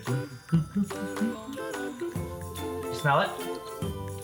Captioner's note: sounds increasing in pitch